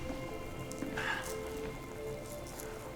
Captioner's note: Jesse exhales